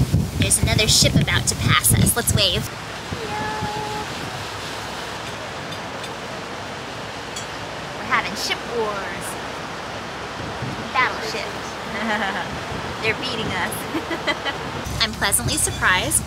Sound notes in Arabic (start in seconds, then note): 11.8 يضحك; 13.7 يضحك